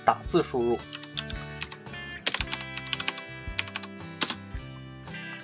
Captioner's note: typing Sound